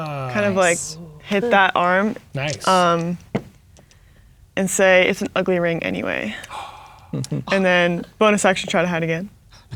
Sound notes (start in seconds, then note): 6.4 gasps; 7.0 chuckling